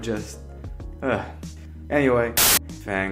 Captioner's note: sigh